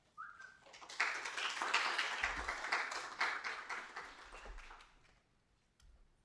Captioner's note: applause